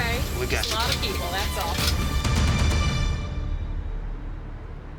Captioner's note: none